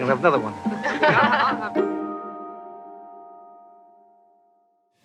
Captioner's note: laughing